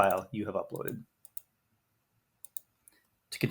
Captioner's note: mouse clicks